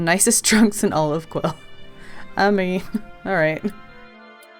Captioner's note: laughs